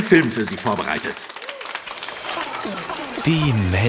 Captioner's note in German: Applaus